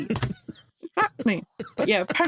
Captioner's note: laughing